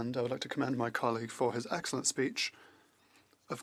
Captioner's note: speaking French